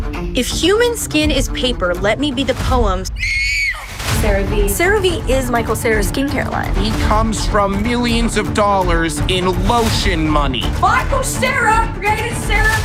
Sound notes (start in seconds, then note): 3.1 screams